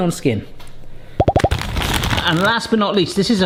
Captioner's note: popping; packet rustles